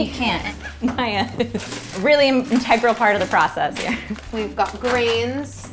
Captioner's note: laughing